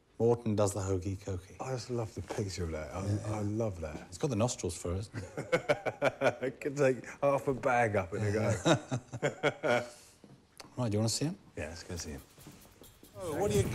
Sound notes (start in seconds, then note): 5.2 laughing